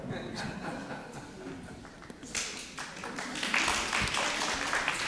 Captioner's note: participants laughing and clapping